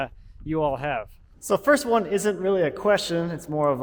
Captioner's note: voice echoing